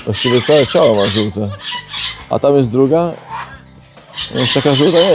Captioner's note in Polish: parsknięcie